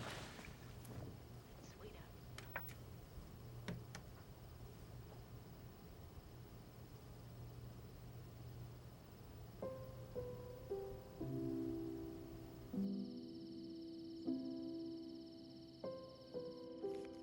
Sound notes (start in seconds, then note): 2.3 TV clicks off; 9.3 soft piano music playing